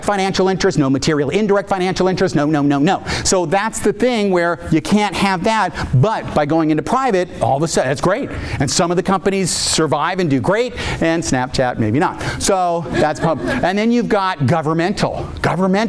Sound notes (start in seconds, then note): 12.4 audience laughing